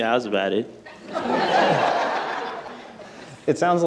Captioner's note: people laughing